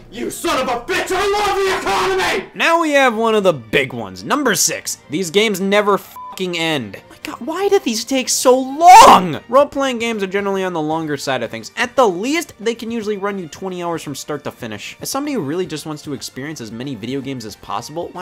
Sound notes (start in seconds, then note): 6.1 beep